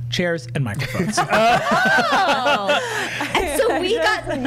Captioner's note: laughing